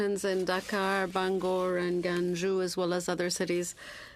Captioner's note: speaking French